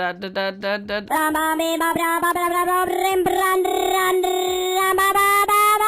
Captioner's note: silly Voice